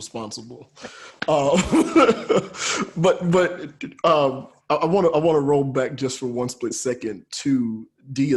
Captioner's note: laughs